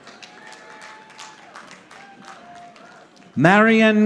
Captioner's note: audience applauding